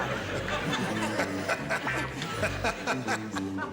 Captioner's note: laughing